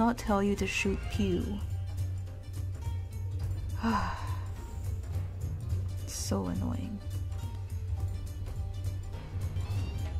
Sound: sigh

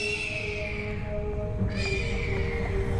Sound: hawks screeching

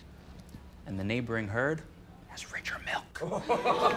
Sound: whispers

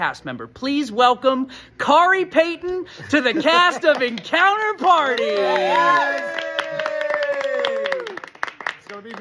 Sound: cheers

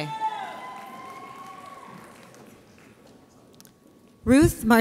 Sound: audience applauds

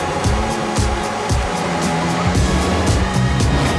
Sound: engine revs; upbeat music

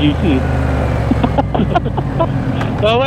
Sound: group laughing

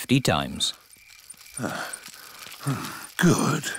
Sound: panting

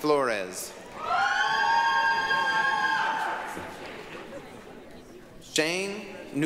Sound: applause, cheering

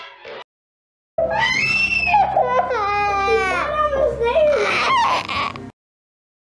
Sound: crying

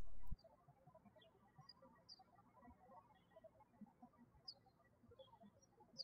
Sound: birds chirping

